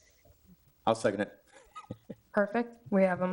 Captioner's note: laughs